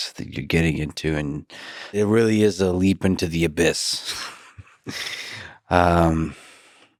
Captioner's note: laughs